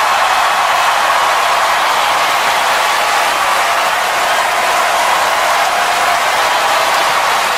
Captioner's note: thunderous applause and cheers